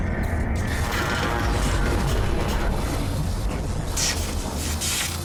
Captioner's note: sizzling and humming